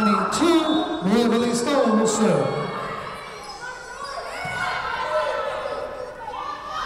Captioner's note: whistle blowing